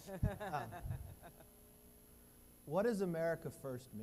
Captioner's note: laughing